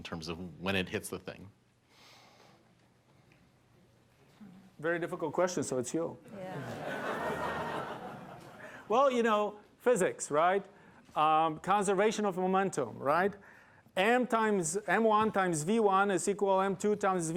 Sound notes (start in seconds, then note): 6.4 laughter